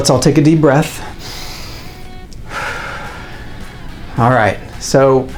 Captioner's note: inhales and exhales